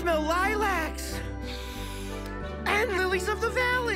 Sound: inhaling deeply

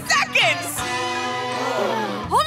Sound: gasping

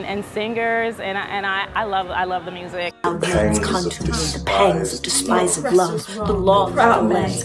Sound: overlapping chatter

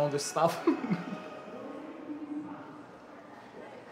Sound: laughs

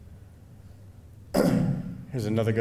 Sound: clearing throat

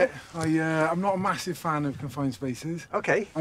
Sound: none

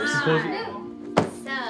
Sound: suitcase shuts

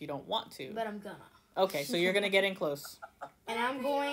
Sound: laughter

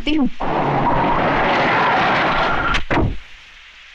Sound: tire Screeching

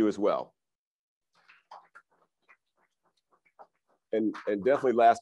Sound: crowd applauds

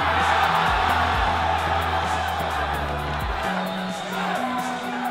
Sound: cheering

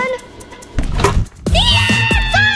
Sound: swoosh; children cheering

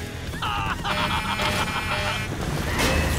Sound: cackles; alarms blare

